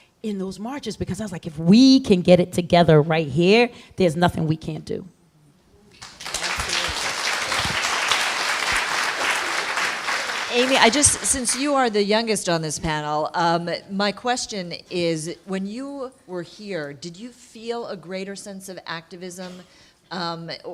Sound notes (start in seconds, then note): 5.9 applause